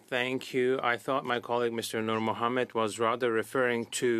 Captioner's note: speaking French